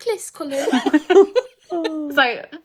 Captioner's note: laughing